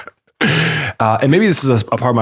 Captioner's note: chuckles